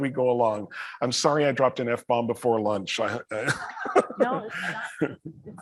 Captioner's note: laughs